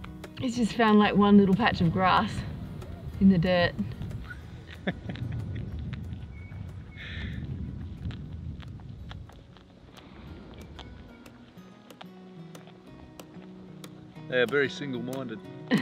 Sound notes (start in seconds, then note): 4.6 laughs; 7.1 wombat chewing